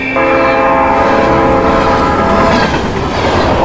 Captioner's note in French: coup de klaxon